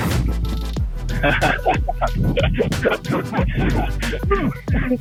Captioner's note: laughing